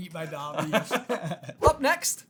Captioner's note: laughing